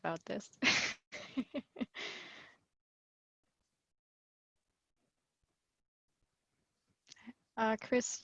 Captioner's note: laughs